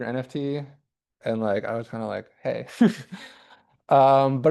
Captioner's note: chuckles